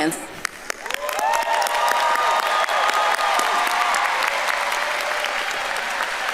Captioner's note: audience applauding and cheering